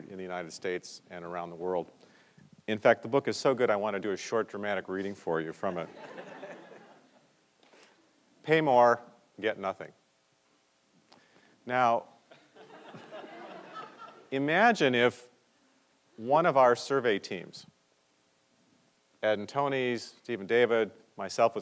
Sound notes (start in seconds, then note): 5.8 audience laughs; 12.4 audience laughs